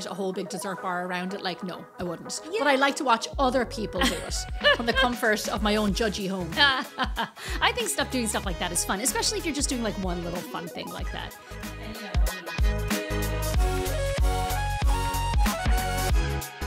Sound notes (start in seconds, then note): 6.6 laughing; 13.0 upbeat music